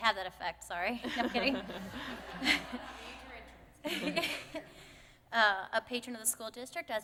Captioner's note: laughter